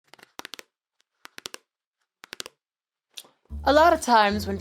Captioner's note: nails clacking; gentle playful music